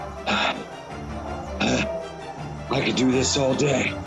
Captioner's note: Arthur grunting in pain